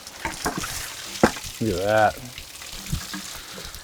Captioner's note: water trickles; laughs